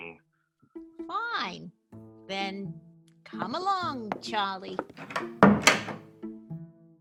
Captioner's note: footsteps and door